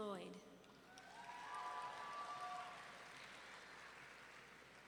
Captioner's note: audience clapping